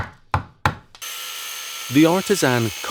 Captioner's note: sander grinding